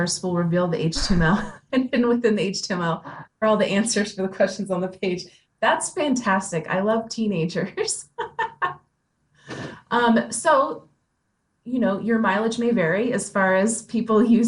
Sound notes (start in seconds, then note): 8.0 laughs